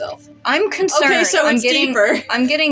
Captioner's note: chuckle